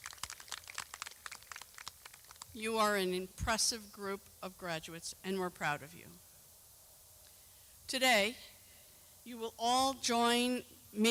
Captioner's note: clapping